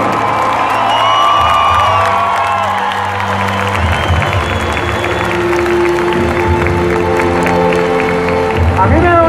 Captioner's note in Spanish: aplausos